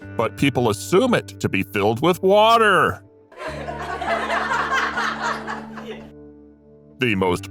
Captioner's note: laughing media